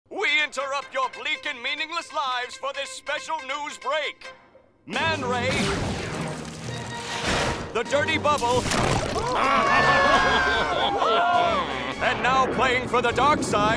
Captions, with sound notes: We interrupt your bleak and meaningless lives for this special news break. Man Ray... the Dirty Bubble... [screaming, laughing] ...and now playing for the dark side,